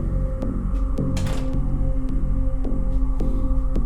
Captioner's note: suspenseful music continues; door shuts